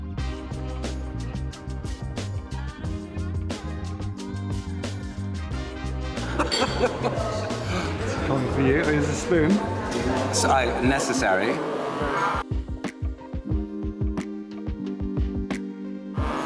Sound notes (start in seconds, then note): 0.3 mellow groovy music; 6.2 laughs; 7.6 gasps; 12.3 gentle groovy music; 16.2 espresso maker buzzing